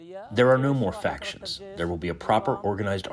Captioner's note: through translator